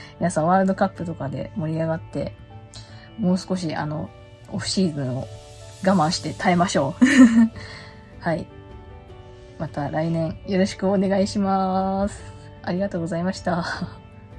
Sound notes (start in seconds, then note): 7.0 laughs